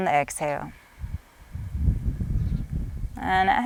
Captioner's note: exhales deeply